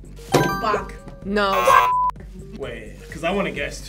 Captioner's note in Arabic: صفارة